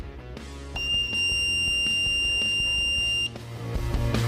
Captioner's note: beeping